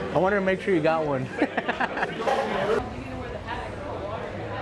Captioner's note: laughs